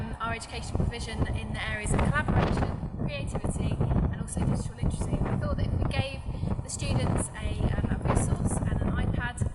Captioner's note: wind noise